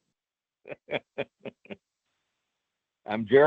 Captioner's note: chuckles